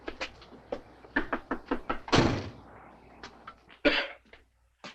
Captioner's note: knuckles rapping; car door thuds; Harry coughs